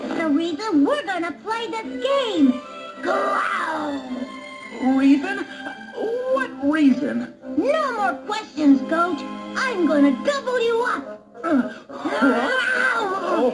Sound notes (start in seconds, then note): 3.0 growls